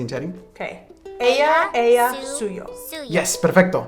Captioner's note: speaking in a foreign language